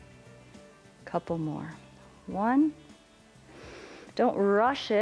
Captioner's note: inhales